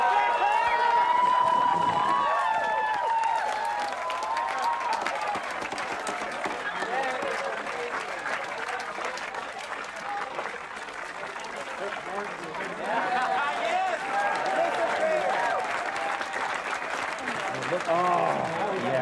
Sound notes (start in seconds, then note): 3.1 continued cheering